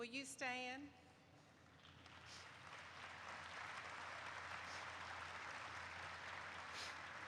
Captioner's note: applause erupts